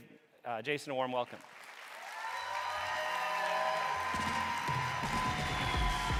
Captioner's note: audience cheering and applauding